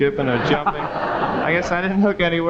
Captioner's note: audience laughing